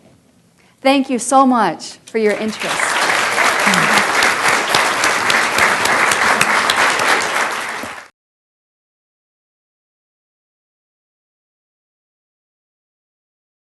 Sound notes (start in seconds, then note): 2.3 applause